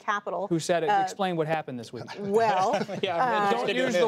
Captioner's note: laughs; laughter